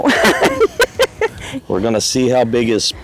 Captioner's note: laughing